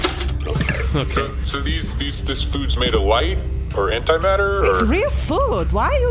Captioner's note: replicator chimes and ejects some bread